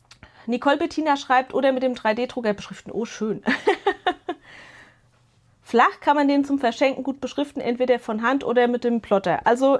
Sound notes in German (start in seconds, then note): 3.4 gelächter